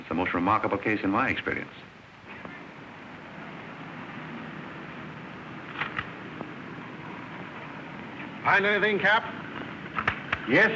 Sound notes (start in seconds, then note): 5.7 camera flash